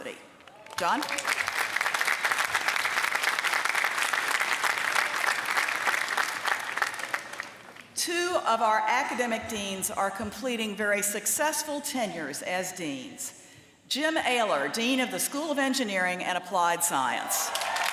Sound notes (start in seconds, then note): 0.4 applause